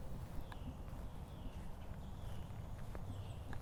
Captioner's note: birds chirping